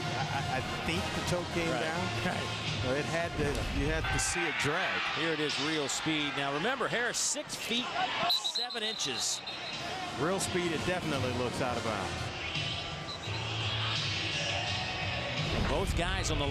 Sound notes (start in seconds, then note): 8.5 crowd noise